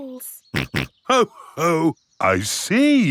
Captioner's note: snorts